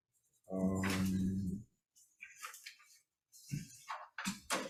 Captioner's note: papers rustling